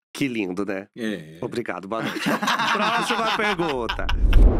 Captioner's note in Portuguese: risos